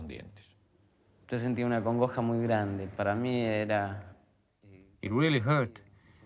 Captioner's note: man speaking in foreign language